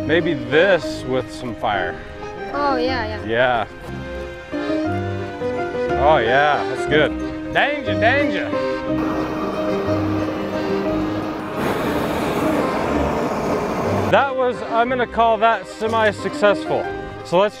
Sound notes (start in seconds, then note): 9.0 fire whooshes